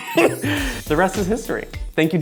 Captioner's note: laughs